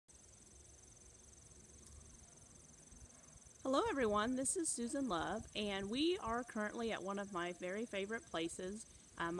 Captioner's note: nature sounds of insects buzzing and chirping in background